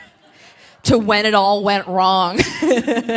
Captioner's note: laughs